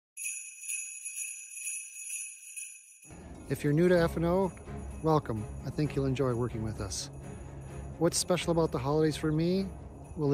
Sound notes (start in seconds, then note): 0.2 bells jingling